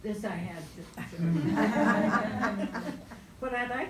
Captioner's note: group laughs